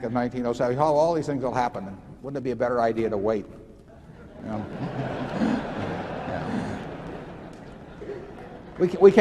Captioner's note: laughter